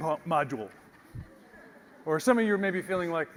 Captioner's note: laugh